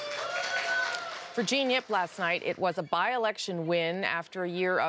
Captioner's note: applause